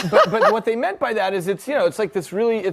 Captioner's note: audience laughter